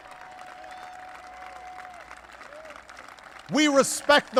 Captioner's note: applause